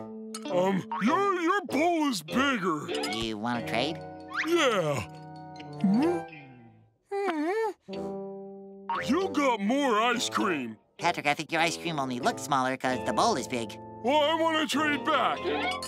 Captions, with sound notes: Um, your- your bowl is bigger. Do you wanna trade? Yeah. Mm? [groaning] You got more ice cream. Patrick, I think your ice cream only looks smaller cause the bowl is big. Well, I wanna trade back.